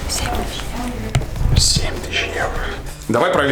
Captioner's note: whispering